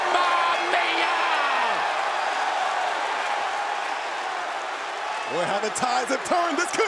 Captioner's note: crowd cheering